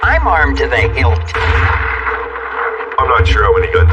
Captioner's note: gunires